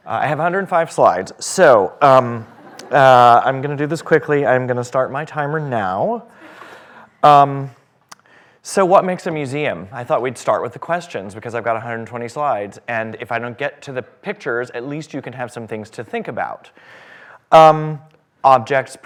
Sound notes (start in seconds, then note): 2.4 laughter